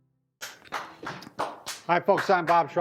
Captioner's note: claps